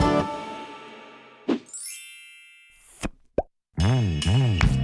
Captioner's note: chimes